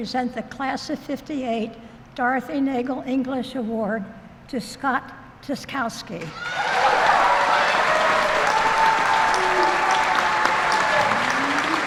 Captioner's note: applause